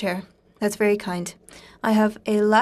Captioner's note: speaking French